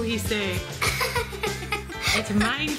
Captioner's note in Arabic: ضحك